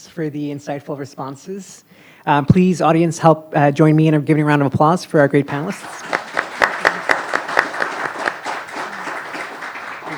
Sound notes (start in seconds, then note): 5.5 group clapping